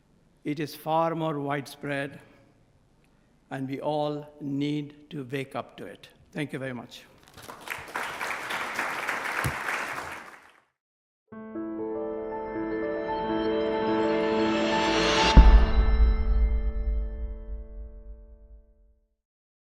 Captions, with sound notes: ...it is far more widespread, and we all need to wake up to it. Thank you very much. [Aplausse]